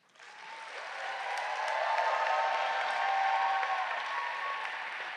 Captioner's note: audience cheering